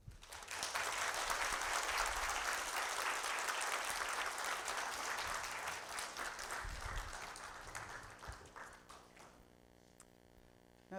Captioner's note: applause